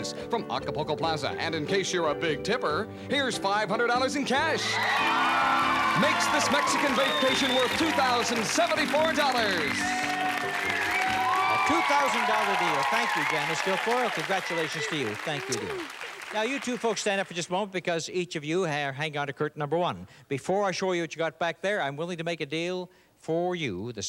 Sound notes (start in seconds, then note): 4.7 cheers and applause; 9.7 cheers and applause